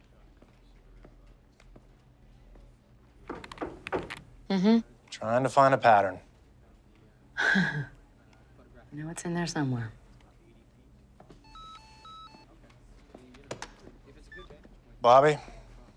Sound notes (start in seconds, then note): 3.3 knocks; 7.4 sighs; 11.4 cell phone rings; 14.3 beeps